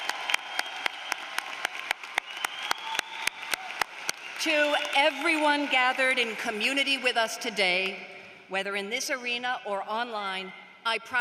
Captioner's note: applause